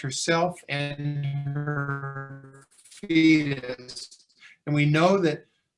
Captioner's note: audio distortion